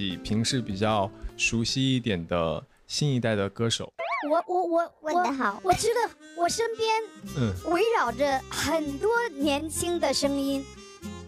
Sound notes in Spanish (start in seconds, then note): 4.2 tartamudea nerviosamente